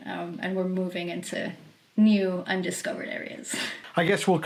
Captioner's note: chuckles